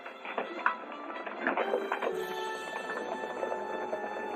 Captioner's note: horses trotting